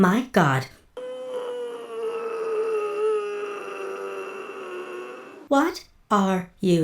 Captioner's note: grunting harder